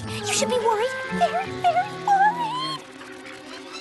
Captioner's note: whimpering